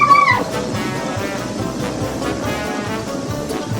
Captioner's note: assistant hooting